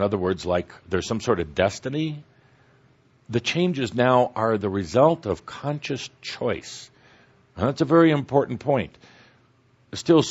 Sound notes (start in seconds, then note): none